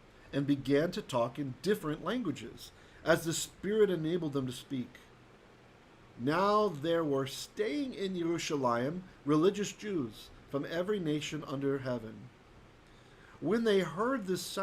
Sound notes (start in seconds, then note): 0.0 Hebrew; 8.4 Hebrew